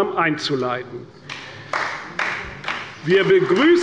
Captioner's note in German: Beifall bei Abgeordneten der CDU